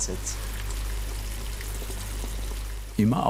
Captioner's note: soft bubbling